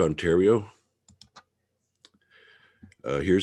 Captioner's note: mouse clicking